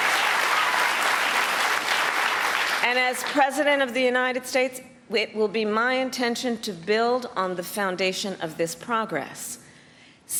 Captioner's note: cheers and applause